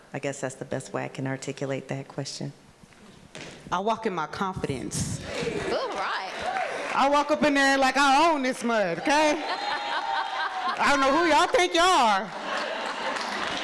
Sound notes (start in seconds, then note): 10.2 person laughing